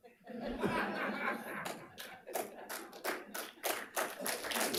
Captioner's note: attendees laughing; attendees applauding